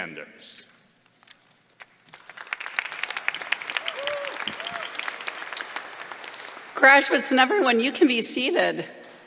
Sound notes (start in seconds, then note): 4.3 applause